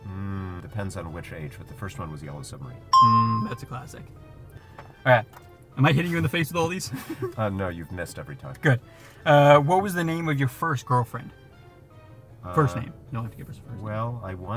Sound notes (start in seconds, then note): 2.9 bell rings